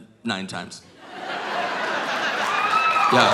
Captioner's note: audience laughing; audience cheering